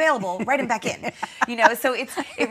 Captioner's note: laughing